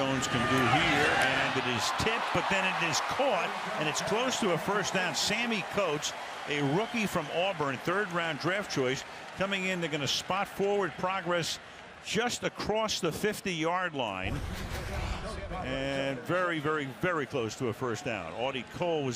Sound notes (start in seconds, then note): 14.9 pa announcement